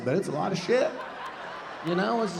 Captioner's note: audience laughing